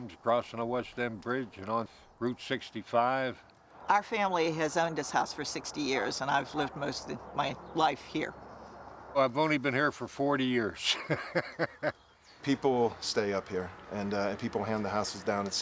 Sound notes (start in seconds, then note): 10.9 laughing